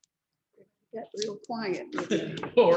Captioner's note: laughs